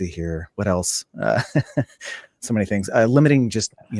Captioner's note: laughing